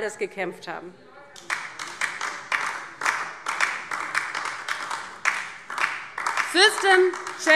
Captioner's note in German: Beifall DIE LINKE